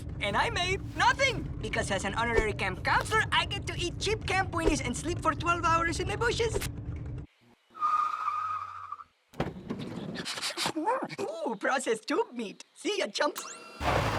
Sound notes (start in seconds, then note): 7.8 tires screeching; 10.2 sniffing